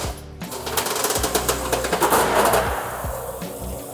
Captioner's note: gutter rattling; machinery whirring